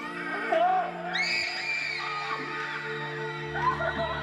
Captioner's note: children screaming